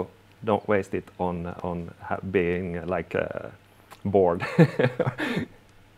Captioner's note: laughing